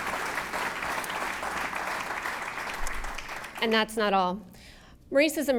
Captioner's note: applause